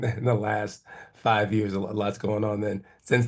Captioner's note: laugh